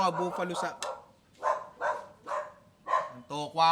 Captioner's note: dog barking